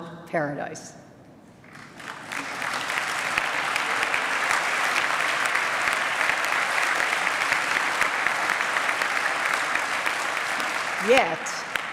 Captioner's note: applause